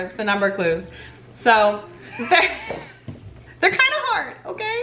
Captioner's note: laughing